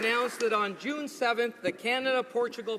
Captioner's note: applause